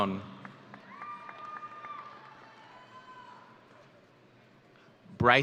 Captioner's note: audience cheering